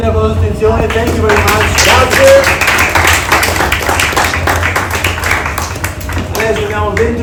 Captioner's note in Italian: applauso